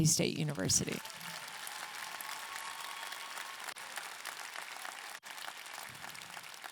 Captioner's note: audience clapping and cheering